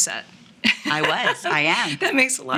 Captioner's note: woman laughs